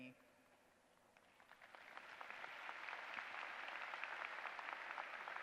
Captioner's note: applause